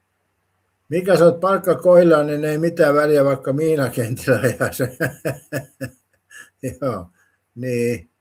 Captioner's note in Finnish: naurua